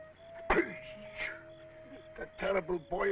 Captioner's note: grunting